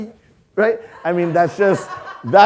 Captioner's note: audience laughing